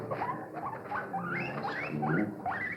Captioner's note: guinea pig squeaking